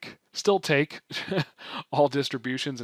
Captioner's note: chuckles